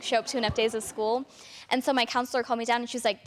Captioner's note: audience laughter